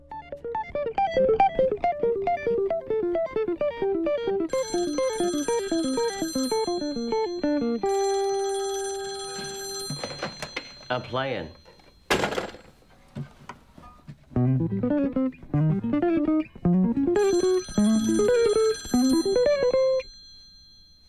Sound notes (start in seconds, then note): 0.0 rapid guitar music; 4.3 phone rings; 17.0 phone rings